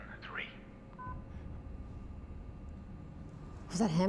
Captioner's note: beeps